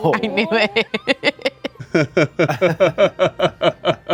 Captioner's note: laughing